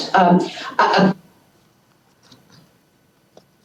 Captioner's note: audio cuts out